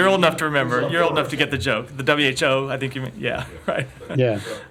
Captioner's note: laughter